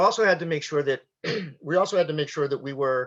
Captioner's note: clears throat